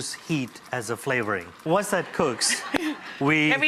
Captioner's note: audience laughs